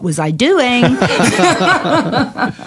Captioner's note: laughter